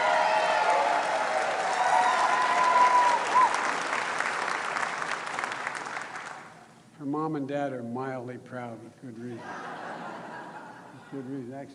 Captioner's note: applause